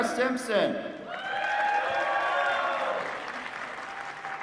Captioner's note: applause